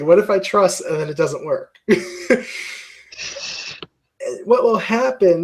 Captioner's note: laugh